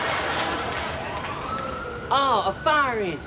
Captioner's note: siren wailing